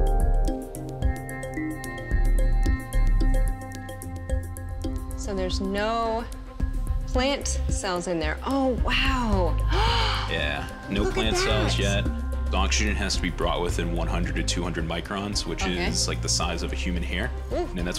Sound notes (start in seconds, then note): 9.6 gasps